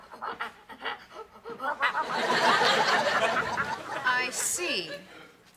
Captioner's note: making monkey noises